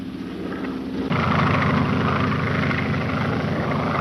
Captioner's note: engine droning